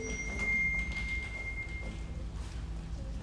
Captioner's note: light beeps